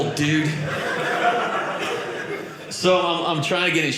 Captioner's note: audience laughing